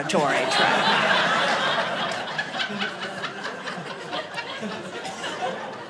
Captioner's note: audience laughing